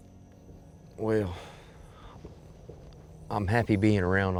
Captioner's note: sighs